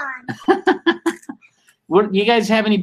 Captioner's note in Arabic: يضحك